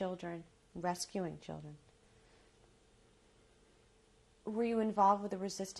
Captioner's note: pauses for 3 seconds